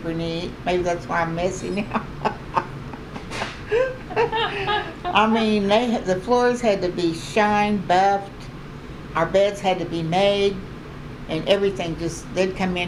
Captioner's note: laughter